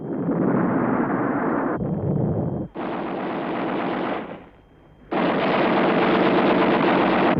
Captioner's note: explosions; rapid gunfire